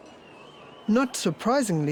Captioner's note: crowd whistling